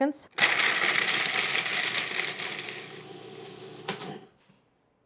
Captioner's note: food processor grinds almonds